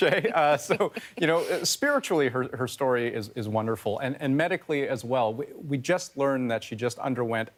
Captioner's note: laughter